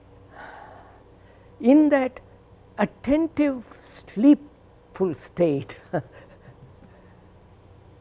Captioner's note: laughs